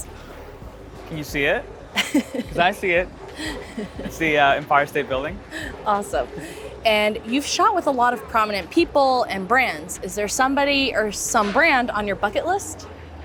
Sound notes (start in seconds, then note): 3.3 laughing